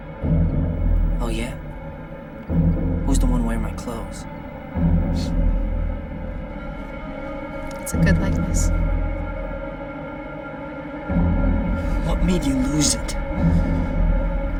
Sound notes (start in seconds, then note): 5.0 chuckles